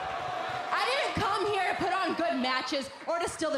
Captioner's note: crowd cheering